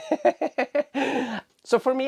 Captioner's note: laughs